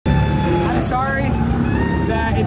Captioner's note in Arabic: تسريع المحرك